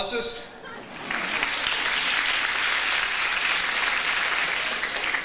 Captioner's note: audience applauds